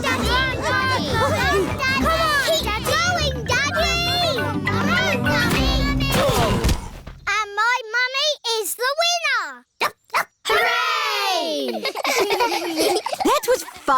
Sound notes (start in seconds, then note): 6.1 groaning; 10.4 barks; 11.6 giggling